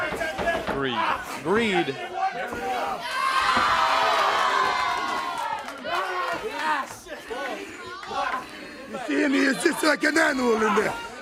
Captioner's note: crowd chatter